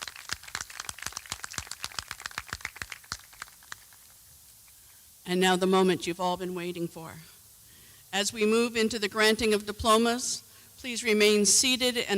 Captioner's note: applause